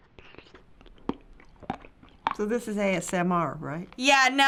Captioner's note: crunching